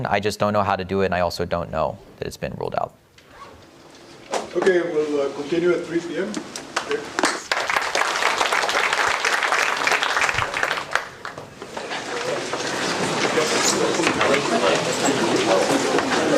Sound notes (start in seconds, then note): 7.1 applause; 9.7 background chatter